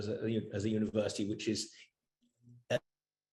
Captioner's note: audio Cuts Out